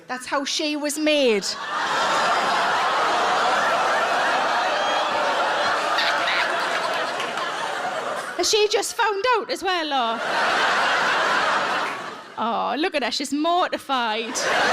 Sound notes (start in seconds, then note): 1.2 audience laughs; 14.2 audience laughs